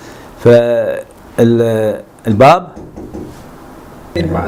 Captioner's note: door knocking